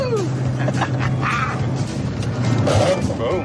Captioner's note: gear cranks